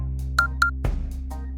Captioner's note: beep beep